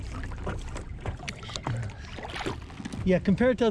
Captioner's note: fish splashing